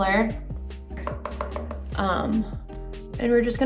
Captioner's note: brush taps